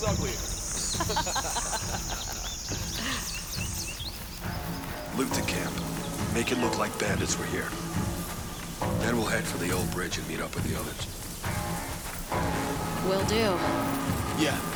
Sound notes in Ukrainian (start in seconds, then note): 0.8 сміх